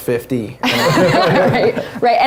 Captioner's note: laugh